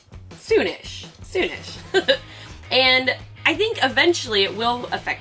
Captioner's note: laughs